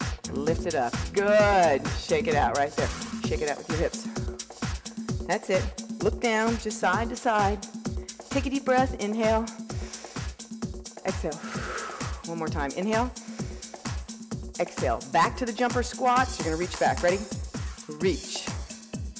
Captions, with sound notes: Lift it up, good. Shake it out right there. Shake it out with your hips. That's it, look down, just side to side. Take a deep breath, inhale. (breathing) Exhale. (breathing) One more time, inhale. (breathing) Exhale, back to the jumper squats. You're gonna reach back, ready? Reach.